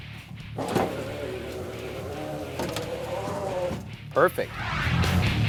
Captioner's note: window motor sound